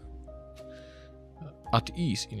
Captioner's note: sigh